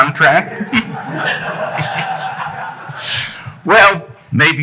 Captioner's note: audience chuckling